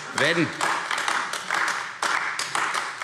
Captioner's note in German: Beifall AfD